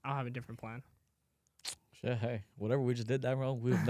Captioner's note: clicks tongue